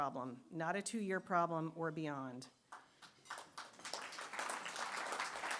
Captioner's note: applause